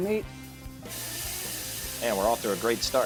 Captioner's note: meat sizzling